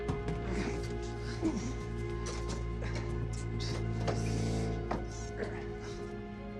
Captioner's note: pensive music; Teplov groaning